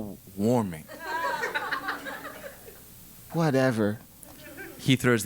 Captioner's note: laugh